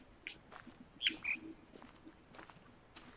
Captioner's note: bird chirps high-low